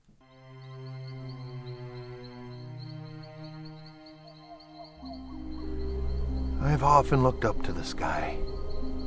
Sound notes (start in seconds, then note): 0.2 ominous orchestral music; 3.4 owl hooting